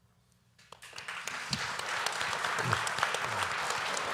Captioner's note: applause